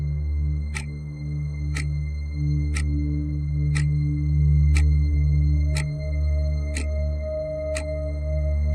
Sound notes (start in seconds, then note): 2.7 clock ticking continues; 2.9 eerie gentle music continues